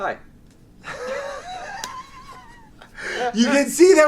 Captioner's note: laughs